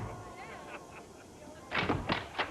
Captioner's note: knocks at door